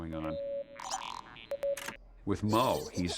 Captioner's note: low beeping